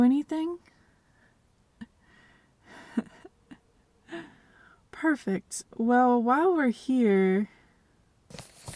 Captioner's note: chuckle